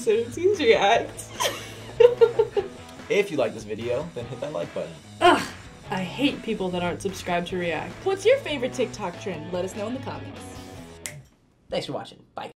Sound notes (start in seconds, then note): 1.3 laughs; 11.0 snaps